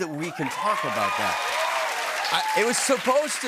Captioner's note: cheers and applause